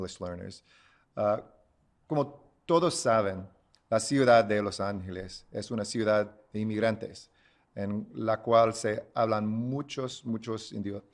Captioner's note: Spanish